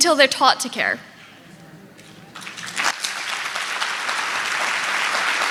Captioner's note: audience clapping